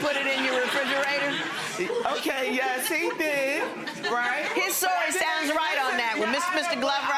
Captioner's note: audience laughing